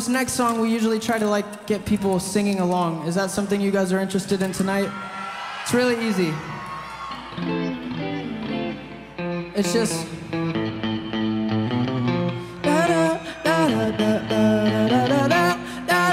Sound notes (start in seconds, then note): 4.3 crowd cheering; 7.2 guitar strumming; 9.4 plays guitar